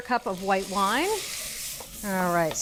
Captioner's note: pot sizzling